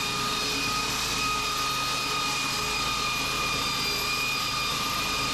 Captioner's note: drill whirring